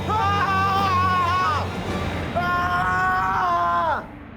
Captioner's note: shouting